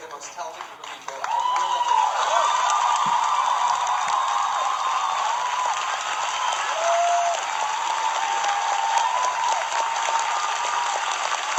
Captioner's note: audience cheering